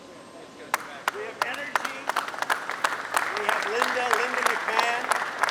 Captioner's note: applause